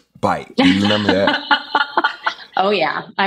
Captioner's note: laughs